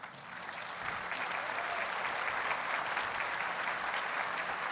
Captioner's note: audience cheers and applauds